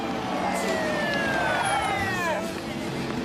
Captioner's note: sirens wailing